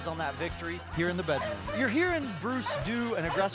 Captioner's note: barking